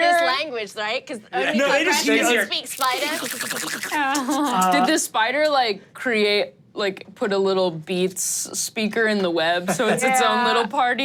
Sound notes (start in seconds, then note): 1.6 imitates spider eating